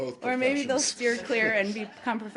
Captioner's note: laughter